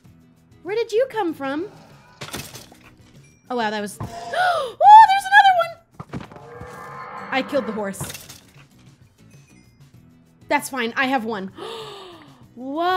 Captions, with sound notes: Where did you come from? Oh wow, that was- *gasp* Oooo there's another one! I killed the horse That's fine I have one *gasp*